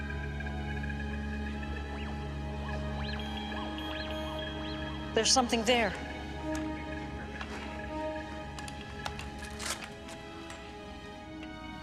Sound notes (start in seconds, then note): 3.1 beeps